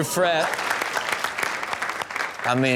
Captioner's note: audience applauds